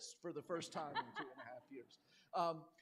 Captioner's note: laughter